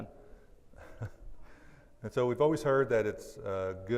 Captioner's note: laughs